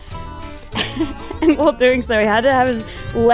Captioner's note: laughs